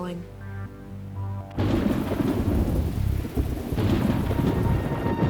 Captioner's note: thunder rumbling